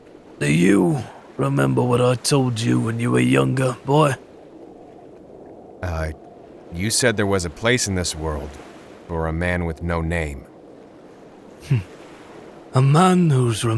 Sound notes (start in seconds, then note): 11.6 Broker chuckles sadly